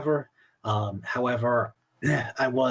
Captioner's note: coughs